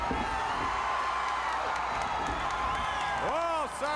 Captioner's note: crowd cheers; crowd applauds